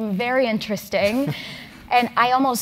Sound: laugh

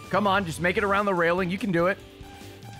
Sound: none

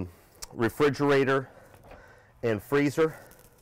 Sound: heavy breathing

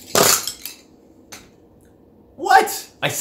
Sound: pencils clattering

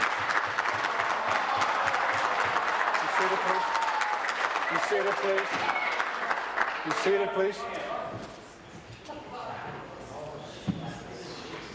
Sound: applause

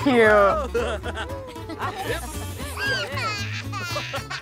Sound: baby giggling

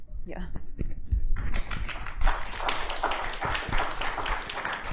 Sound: applause

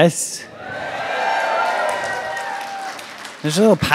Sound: audience cheers and claps

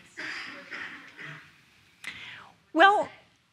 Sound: coughing drowns out speaker

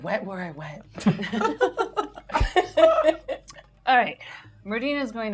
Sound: gamers laughing

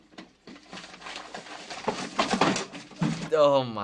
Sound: paper rustling

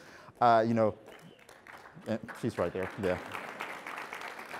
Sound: audience applauds

